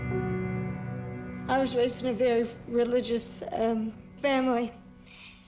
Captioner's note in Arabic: بصوت مكسور